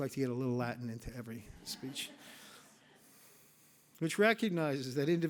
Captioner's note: audience laughs